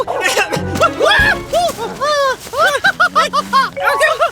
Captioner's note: coughing; thud!; laughing